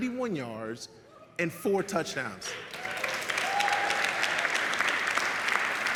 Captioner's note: audience applauds